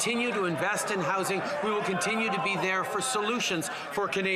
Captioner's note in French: voix de l'interprète